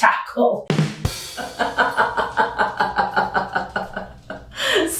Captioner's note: laughter